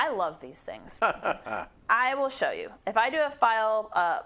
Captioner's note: laugh